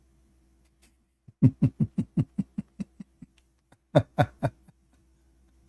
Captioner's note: Ketawa